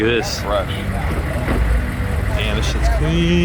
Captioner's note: car engine running